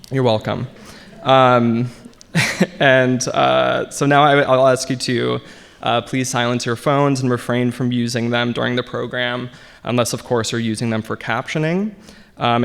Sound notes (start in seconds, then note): 0.2 audience laughing; 2.7 chuckles